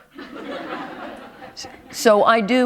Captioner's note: laughter